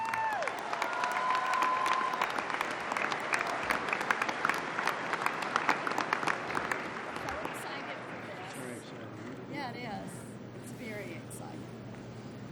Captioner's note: applause